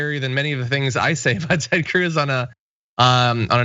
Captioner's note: laugh